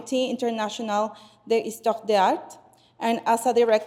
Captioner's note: speaking in foreign language